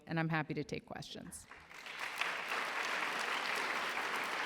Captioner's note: applause